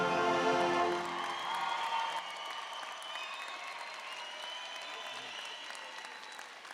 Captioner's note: audience applauding and cheering